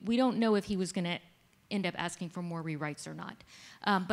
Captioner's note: none